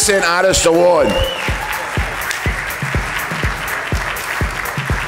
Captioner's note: audience applauding